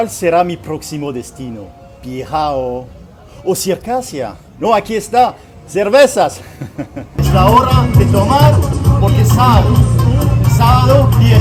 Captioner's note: laughter